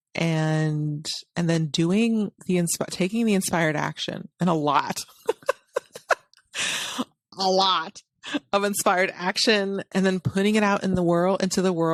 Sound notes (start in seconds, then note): 4.9 laughs